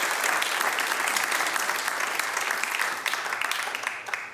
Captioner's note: applause